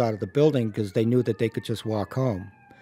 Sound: sirens in distance

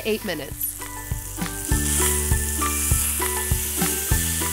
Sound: sizzling

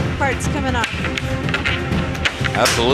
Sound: clicking

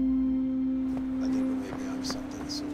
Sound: none

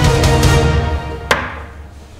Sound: plonk

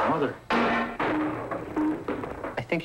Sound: machine clanks

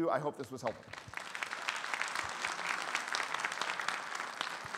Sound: audience applauding

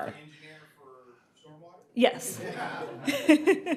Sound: laughter

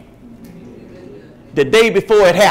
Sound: crowd

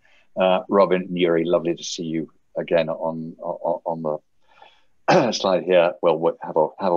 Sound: clears throat

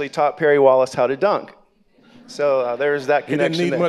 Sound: audience laughing

